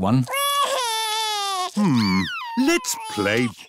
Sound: crying

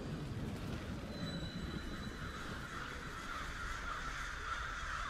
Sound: birds crow

